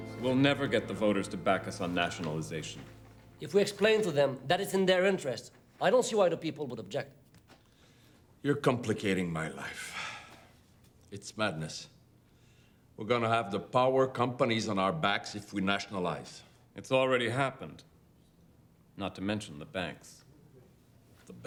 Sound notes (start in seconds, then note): 0.0 people chattering; 9.9 sighs